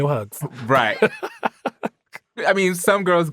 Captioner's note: laughs